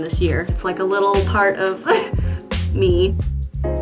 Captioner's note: laughs